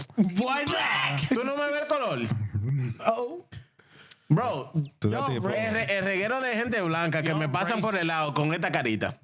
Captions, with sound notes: Why black? (Speaking In Foreign Language) Bro. (Speaking In Foreign Language)